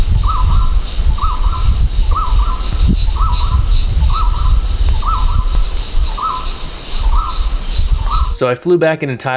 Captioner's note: dynamic and echoing bird call sounds